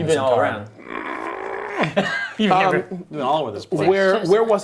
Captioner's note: frustrated grunting